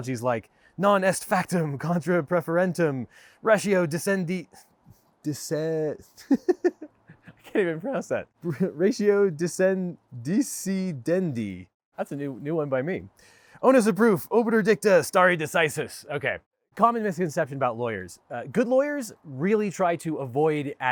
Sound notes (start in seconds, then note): 6.0 chuckles